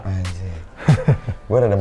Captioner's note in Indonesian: ketawa